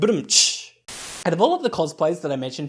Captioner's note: Static